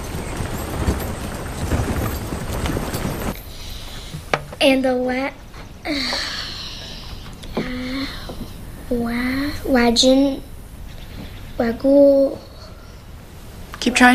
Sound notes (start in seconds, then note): 5.8 groans